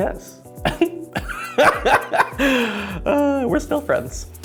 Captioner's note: laughs